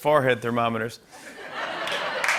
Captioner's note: laughter